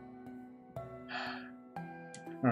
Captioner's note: sighs